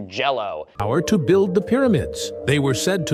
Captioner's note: TikTok AI narrator